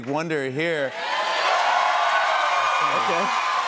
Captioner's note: cheers and applause